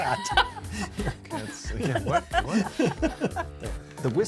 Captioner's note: laughing; laugh